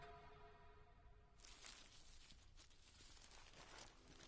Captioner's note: paper tearing